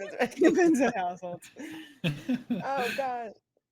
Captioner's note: actors laughing